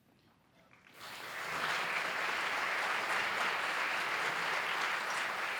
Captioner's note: applause